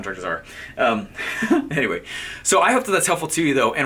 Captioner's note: laughing